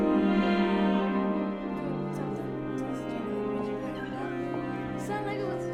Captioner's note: classroom sound